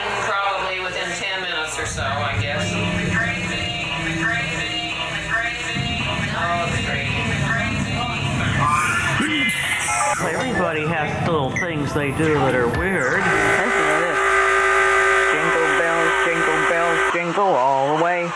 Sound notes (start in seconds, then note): 9.1 sneeze; 14.4 motor whirring